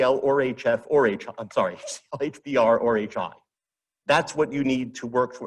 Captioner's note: chuckles